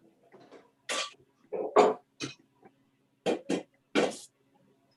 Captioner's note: banging sound